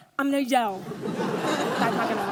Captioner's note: audience laughs